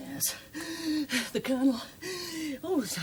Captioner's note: gasps